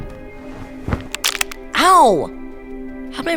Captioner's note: footsteps; loud snap